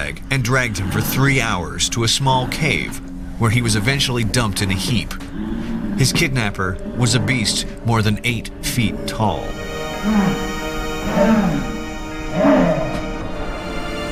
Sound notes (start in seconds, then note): 3.4 creature grunts; 11.0 creature groaning